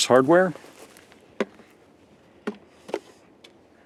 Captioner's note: plastic snaps